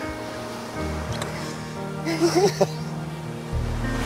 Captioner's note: gentle music; both laughing